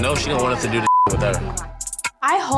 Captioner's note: beep